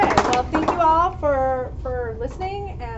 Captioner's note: applause